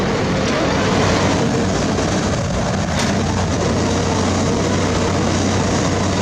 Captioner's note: engine Rev